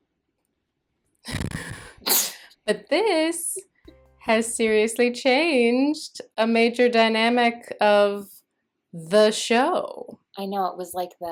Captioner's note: sneezing